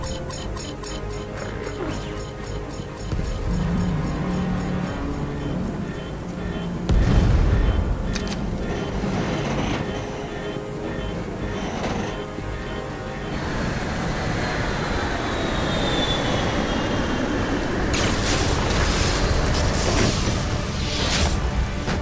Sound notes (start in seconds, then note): 0.1 alarm beeping; 7.8 loud banging; 13.4 wind howling; 17.8 dramatic music